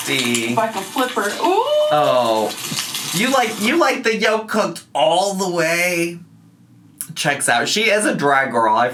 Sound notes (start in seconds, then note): 1.4 whooping